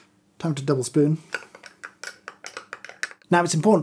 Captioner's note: glass tinkling